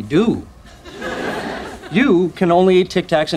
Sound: audience laughing

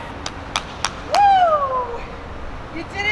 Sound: claps

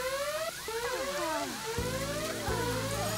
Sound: alarm ringing

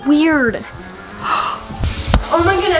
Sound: gasping

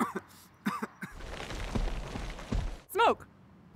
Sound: coughing; soft crunching

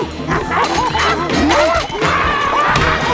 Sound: gorilla sounds

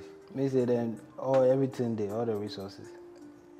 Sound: speaks in Pidgin

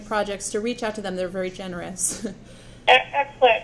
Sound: laughs

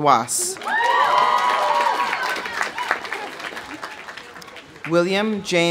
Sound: audience applauding; audience cheering

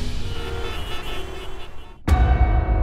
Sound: car horns honking

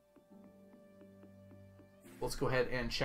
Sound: none

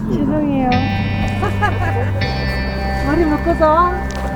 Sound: laughing

